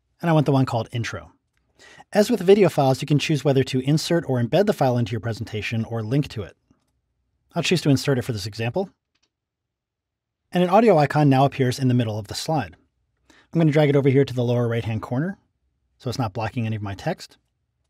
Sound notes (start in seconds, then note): 9.0 clicking